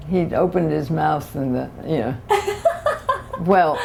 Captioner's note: laughter